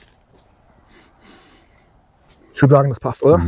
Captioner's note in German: schnauben